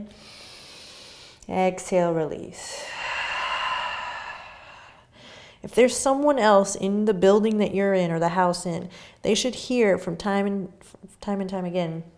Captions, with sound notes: (inhaling) Exhale, release. (exhaling) If there's someone else in the building that you're in or the house in, they should hear from time and time again,